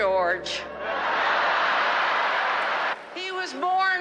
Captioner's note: crowd laughing